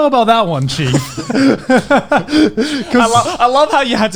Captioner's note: laughing